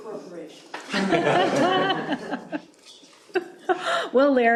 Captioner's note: laughter